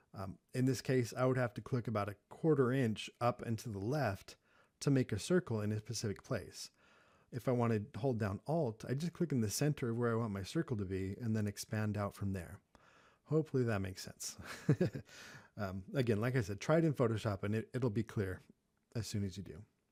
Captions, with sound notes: In this case, I would have to click about a quarter-inch up and to the left to make a circle in a specific place. If I wanted to hold down ALT, I'd just click in the center of where I want my circle to be, and then expand out from there. Hopefully, that makes sense. (laughs) Again, like I said, try it in Photoshop, and it'll be clear, as soon as you do.